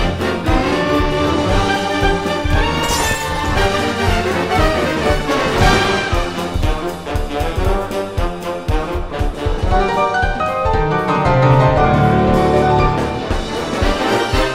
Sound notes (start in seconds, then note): 2.8 glass breaks; 9.6 piano solo